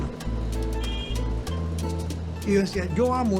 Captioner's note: horn honks